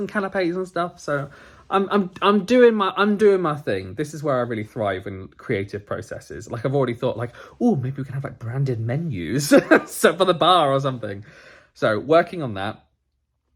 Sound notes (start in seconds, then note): 9.8 laughs